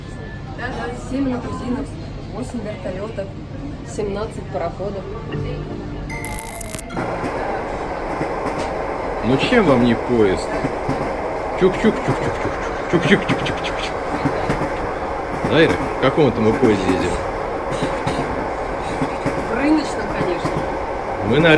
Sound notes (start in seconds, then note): 7.0 train wheels clatter